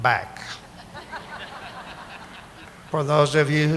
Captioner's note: audience laughing